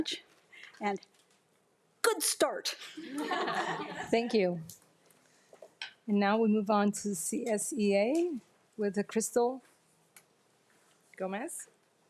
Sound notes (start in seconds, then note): 3.0 attendees laughing